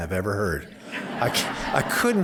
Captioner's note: laughter